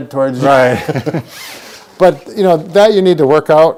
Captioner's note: laughter